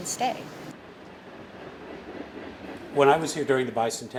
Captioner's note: train clacking